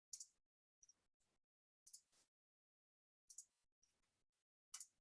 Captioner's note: mouse clicking continues